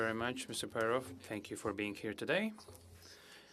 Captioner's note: speaking french